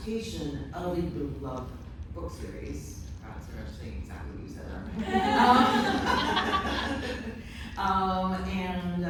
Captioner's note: laughter